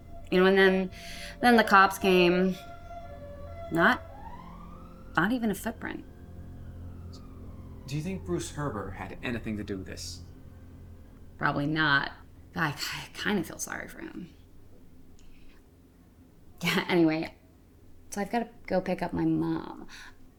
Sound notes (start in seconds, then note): 2.7 police siren wailing